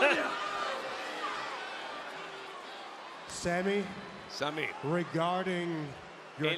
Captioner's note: applause